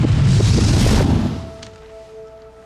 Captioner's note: whooshing